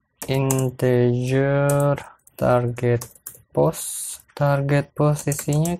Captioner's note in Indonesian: typing code